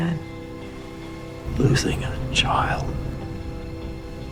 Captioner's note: voiceover